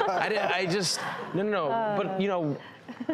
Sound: laughing

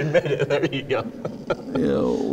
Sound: laughs

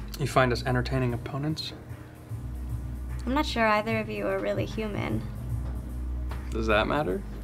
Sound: none

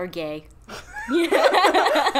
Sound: both laugh

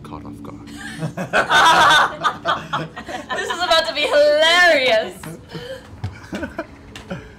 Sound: laughter

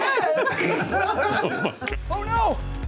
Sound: laughing; group laughter

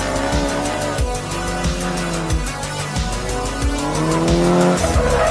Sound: upbeat electronic music; engines roaring

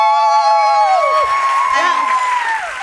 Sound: cheering and applause

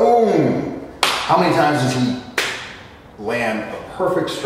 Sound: fist smack

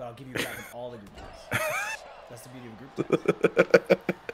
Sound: laugh

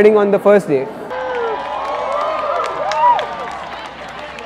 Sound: cheering

